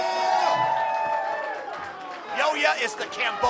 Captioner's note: crowd cheers